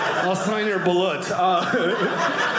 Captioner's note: audience laughing